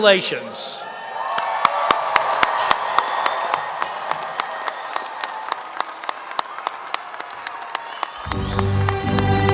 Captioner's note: applause